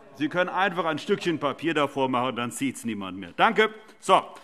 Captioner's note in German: Zurufe DIE LINKE